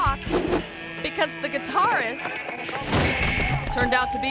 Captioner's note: screen whooshes; person thuds